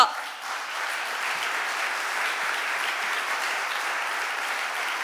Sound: audience applauding

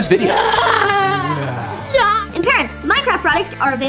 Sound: growling

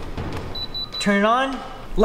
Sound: drone beeps

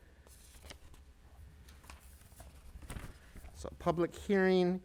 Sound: papers rattling

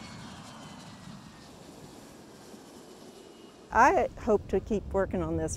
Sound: airplane landing

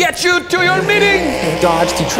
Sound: car racing

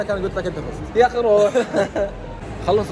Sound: laughs

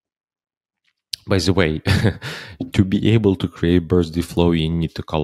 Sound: chuckles

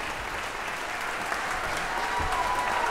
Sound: audience applauding; audience cheering

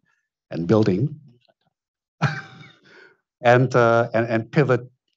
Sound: speaks faintly; Tom laughs

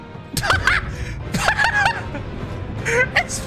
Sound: laughs

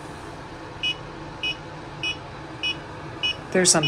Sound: device beeping

